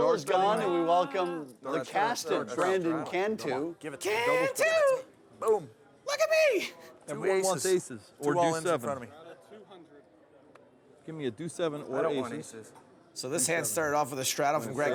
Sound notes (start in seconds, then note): 5.6 high pitched voice